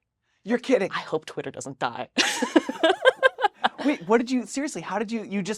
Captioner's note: laughs